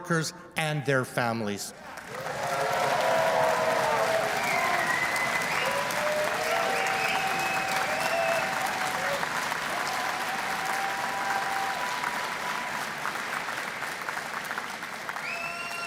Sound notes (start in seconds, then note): 5.1 cheers and Applause